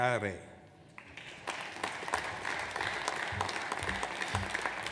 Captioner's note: audience applauds